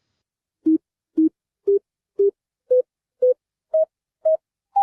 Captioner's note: beeping